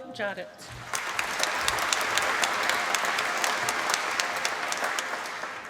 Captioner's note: applause